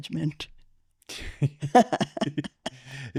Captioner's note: laughing